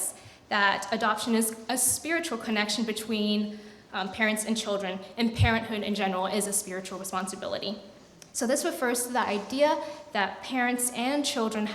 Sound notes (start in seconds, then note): none